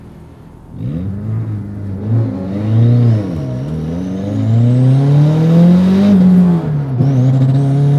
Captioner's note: car engine revving and then accelerating